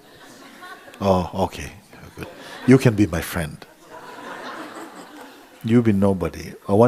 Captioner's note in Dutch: gelach